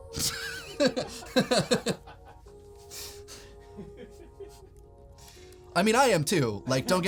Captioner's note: laughs